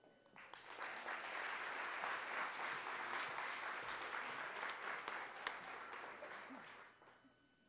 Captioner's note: applause